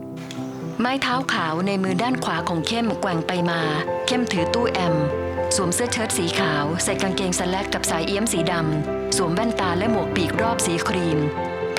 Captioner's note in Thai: เสียงไม้เท้า